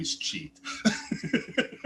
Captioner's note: laughter